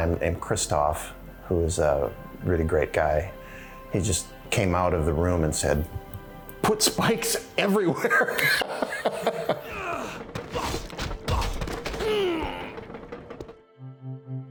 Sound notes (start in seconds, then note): 7.9 laughing; 11.2 grunting